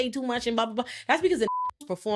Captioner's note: beeping